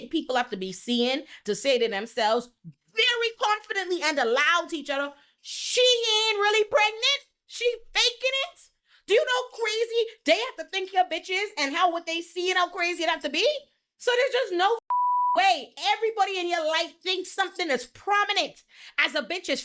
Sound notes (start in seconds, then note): 14.8 beep